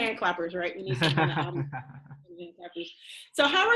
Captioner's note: laughs